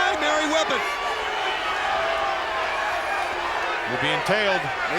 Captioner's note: crowd cheering